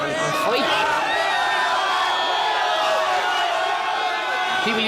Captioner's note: screaming